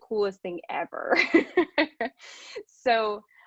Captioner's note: laughs